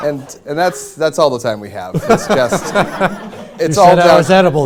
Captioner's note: laughter